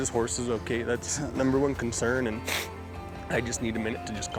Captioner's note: sniffs